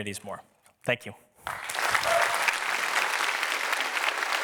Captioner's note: applause